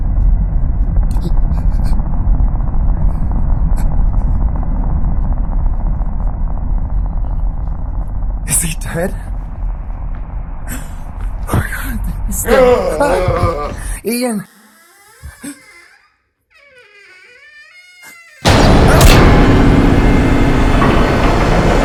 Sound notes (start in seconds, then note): 12.3 moans; 12.4 gasps; 16.5 door creaks; 18.4 startling music